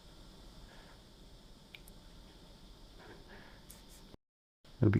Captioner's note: silence